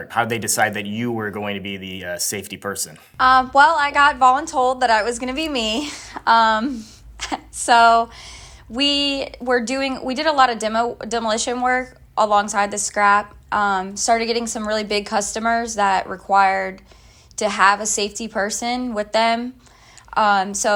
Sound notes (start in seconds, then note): 7.3 laughs